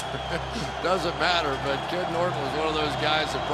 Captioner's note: chuckles